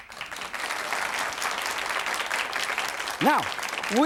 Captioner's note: audience applauds